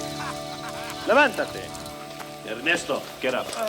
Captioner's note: Bruto speaks Spanish